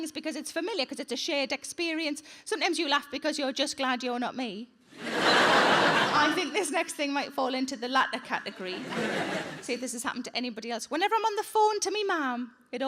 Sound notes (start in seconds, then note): 5.0 audience laughing; 8.6 audience laughing